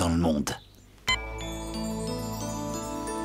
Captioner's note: beep!